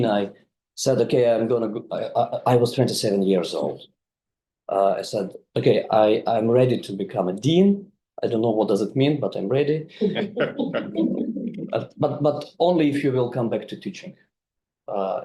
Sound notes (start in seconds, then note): 9.9 group laughing